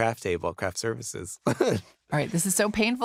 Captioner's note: chuckles